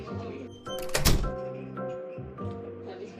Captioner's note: door closes